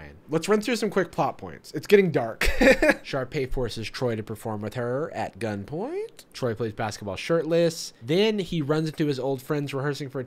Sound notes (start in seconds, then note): 2.4 laughs